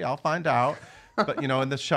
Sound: laughing

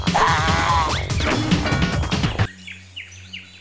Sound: roaring; cartoon sound effects; birds chirping

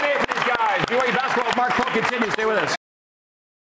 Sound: cheers and applause

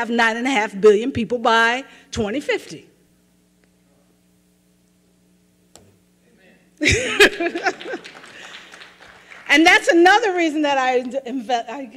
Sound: applause

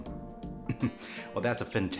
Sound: giggles in Vietnamese

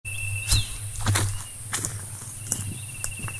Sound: footsteps

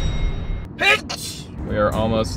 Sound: sneezes

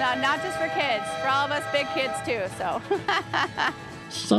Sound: laughs

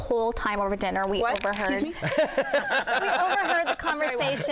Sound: laughs

